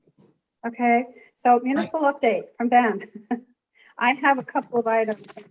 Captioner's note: giggling